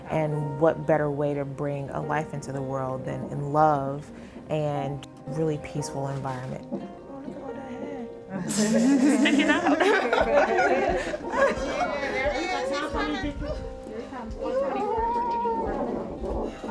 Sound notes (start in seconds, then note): 8.4 women laughing; 11.1 laughing; 14.4 groaning